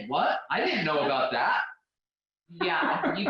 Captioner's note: laughing